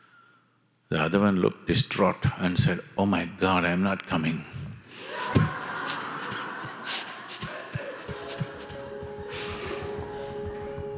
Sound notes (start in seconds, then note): 5.0 laughter